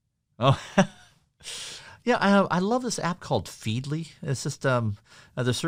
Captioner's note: laughs